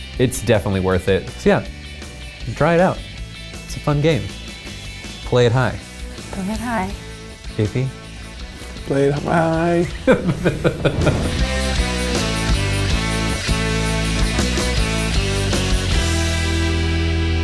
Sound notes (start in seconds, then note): 9.2 laughs; 11.6 upbeat music